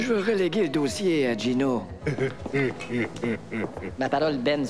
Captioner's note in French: Rire menaçant de Gino